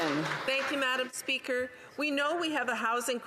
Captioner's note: some Applause